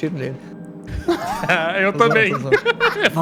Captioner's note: laughs